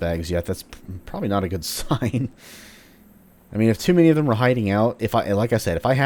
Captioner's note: chuckles